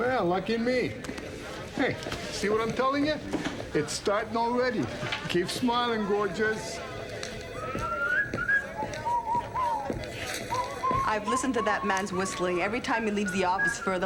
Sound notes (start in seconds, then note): 7.6 Bill whistling